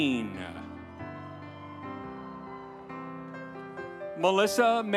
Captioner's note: audience cheering